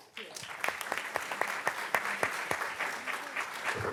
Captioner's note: audience clapping